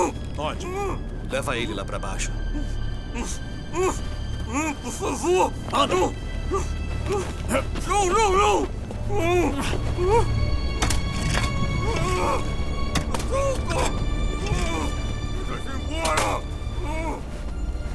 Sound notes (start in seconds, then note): 2.1 Sean screaming, whimpering; 10.8 shovel scraping